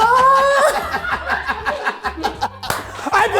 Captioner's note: laughs